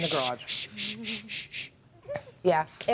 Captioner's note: shushes